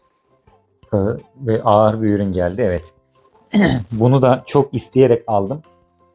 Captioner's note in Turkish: boğazını temizler